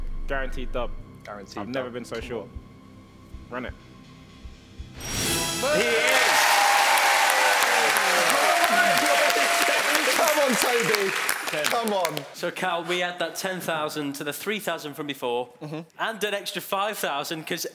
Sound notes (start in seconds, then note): 4.9 chiming; 5.6 cheering